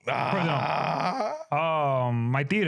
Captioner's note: laughing